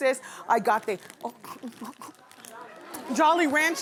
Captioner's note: choking